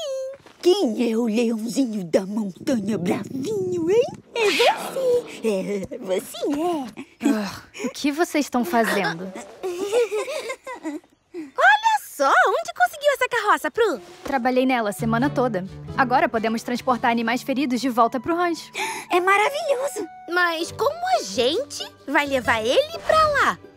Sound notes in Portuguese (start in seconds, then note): 2.7 filhote bramando